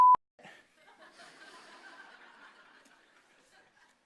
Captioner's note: laughter